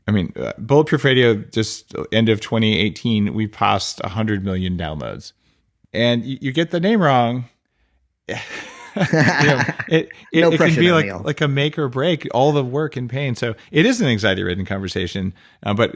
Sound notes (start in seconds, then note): 8.3 laughing